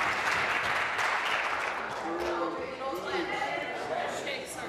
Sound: applause

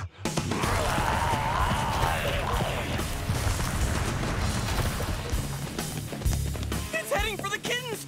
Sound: roaring

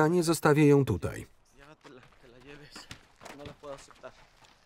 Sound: speaking in Spanish

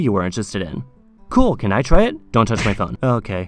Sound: slap

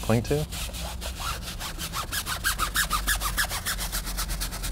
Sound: brush squeaking

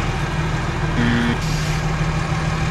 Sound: wrong answer beep

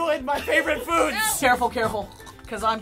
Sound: gagging

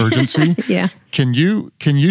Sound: laughs

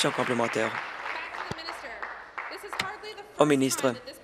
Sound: applause

